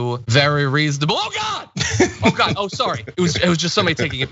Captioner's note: laugh